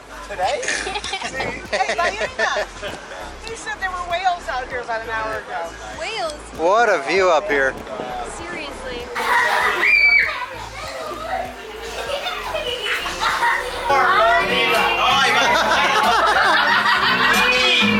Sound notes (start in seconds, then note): 0.4 laughter; 9.6 kids screaming; 11.0 kids laughing; 15.2 laughter